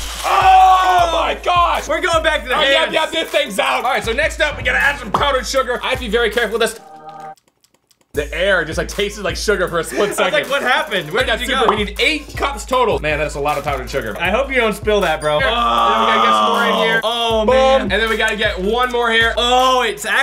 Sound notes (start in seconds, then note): 7.4 licks lips